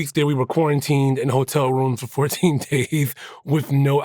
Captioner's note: laughs